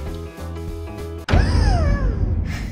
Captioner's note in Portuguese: som de espanto